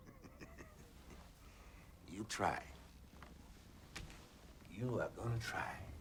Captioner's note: chuckles